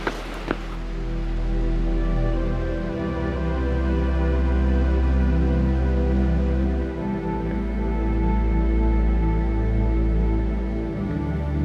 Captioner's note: rushing water and background music